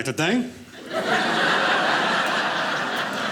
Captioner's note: audience laughing